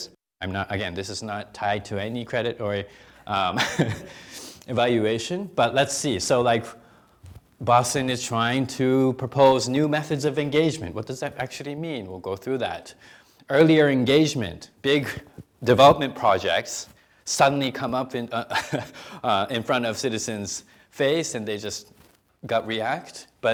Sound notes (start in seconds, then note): 18.4 chuckling